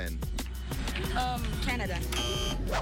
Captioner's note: buzzer